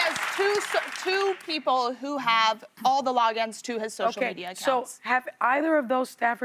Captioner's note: applause